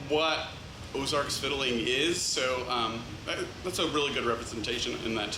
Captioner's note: none